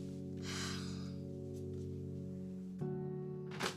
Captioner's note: Cassie sighs